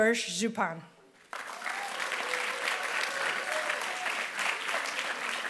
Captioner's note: applause